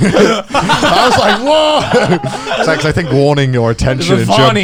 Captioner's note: laughing